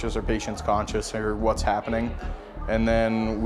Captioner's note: crowd chattering